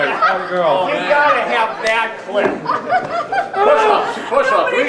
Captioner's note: laughing